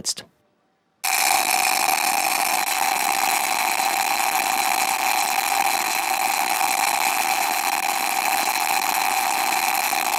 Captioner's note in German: Lautes knisterndes Geräusch